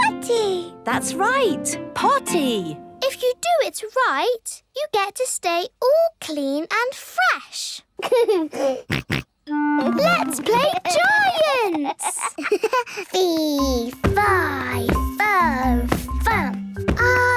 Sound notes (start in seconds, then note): 8.0 giggles, snorts; 11.6 giggles